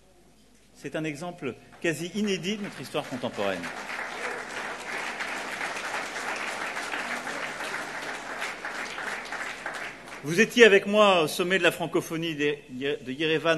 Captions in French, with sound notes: C'est un exemple quasi inédit de notre histoire contemporaine. (Applaudissements) Vous étiez avec moi au Sommet de la francophonie d'Erevan